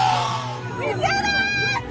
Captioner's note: crowd cheering